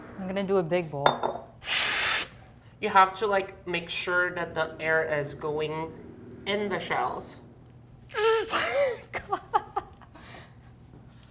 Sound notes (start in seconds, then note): 1.6 air sound; 8.4 chuckles